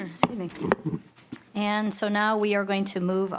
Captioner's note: gavel